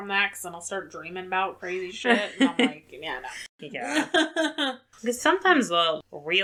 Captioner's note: laughs